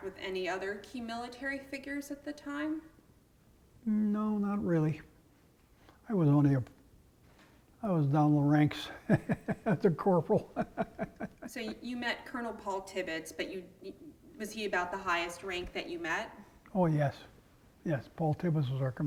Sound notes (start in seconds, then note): 8.9 laugh